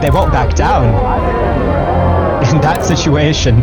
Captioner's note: chanting